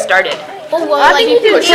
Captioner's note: chatter